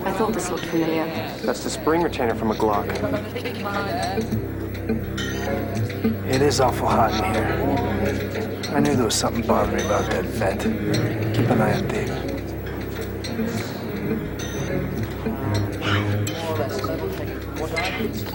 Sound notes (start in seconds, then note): 13.4 Arthur speaking in distance; 13.4 ominous ambient music